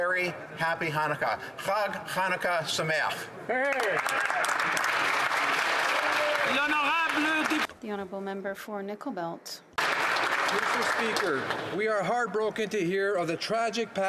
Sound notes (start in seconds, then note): 6.8 speaking Alternate Language; 7.3 applause